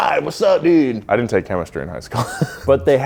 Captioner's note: laughs